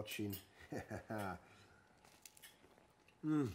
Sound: chuckles

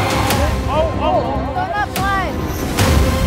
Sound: intense music; man yelling

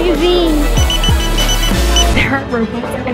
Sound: beeping

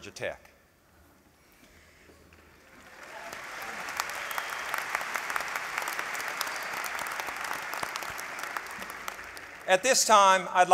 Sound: applause

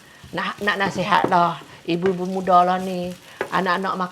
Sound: hissing sound

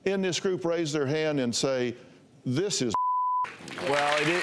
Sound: applause

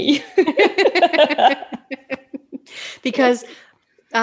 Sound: both chuckling

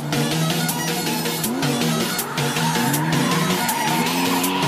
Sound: engine roaring

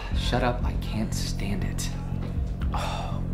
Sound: none

